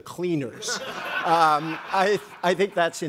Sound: group laughing

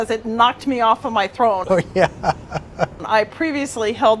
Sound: laughs

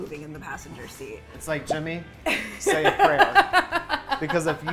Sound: laughs

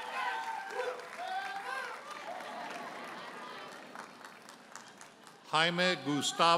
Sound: audience cheers and applauds; audience laughing

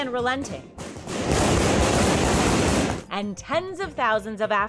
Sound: gunfire blasting

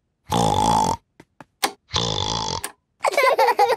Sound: snorting; laughter; snorting

